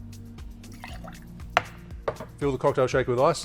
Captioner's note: liquid pours